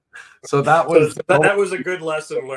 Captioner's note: laughs